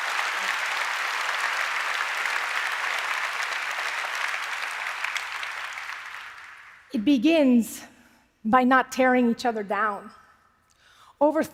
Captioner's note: applause